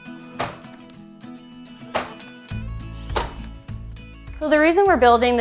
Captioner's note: nail gun popping